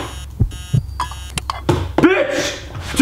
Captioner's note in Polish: głupi alarm